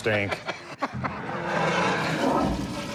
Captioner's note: toilet flushing